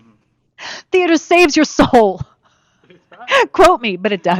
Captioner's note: laughs